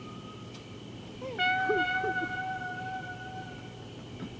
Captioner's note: weeping silently